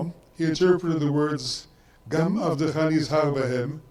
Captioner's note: speaks in foreign language